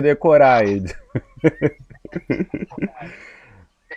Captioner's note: laughter